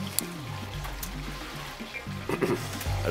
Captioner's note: throat clearing